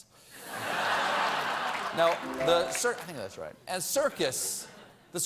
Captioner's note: laughter